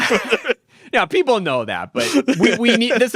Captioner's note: people laughing